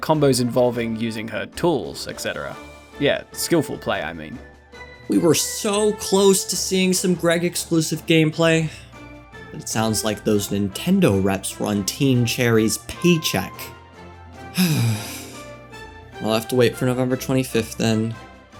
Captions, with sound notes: We were so close to seeing some 'Graig Exclusive' gameplay, but it sounds like those Nintendo Reps were on Team Cherry’s paycheck. *sigh* We'll have to wait for November 25th then